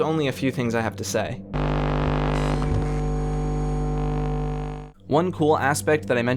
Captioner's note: electronic hum